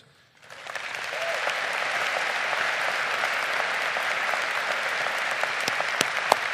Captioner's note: crowd applauding